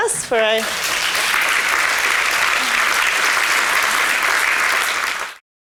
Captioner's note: applause